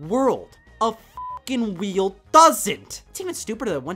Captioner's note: beeps